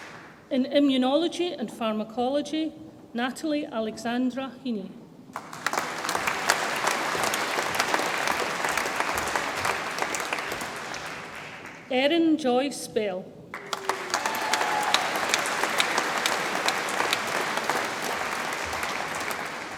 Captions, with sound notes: In Immunology and Pharmacology, Natalie Alexandra Heaney, (audience applauds) Erin Joyce Bell, (audience applauds and cheers)